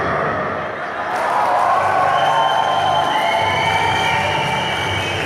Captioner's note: cheering and applauding